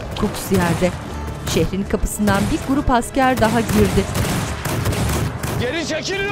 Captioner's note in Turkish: Silah sesleri; Müzik - Gerilim